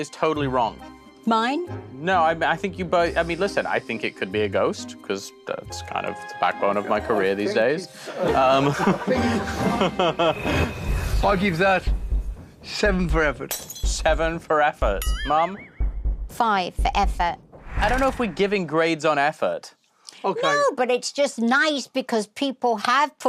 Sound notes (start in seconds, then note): 8.1 laughing